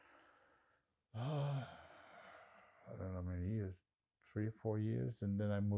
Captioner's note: sighing